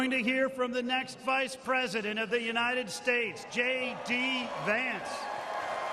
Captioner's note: cheers and applause